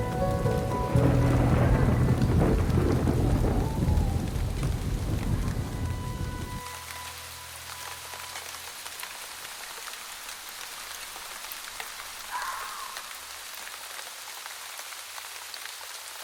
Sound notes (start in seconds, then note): 1.9 thunder crashing; 6.5 gentle orchestral music continues; 8.1 rain pattering